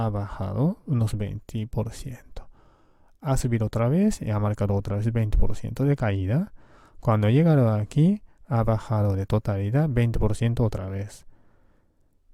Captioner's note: Spanish